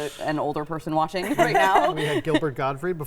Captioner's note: laughs